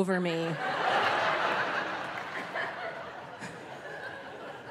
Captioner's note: audience laughing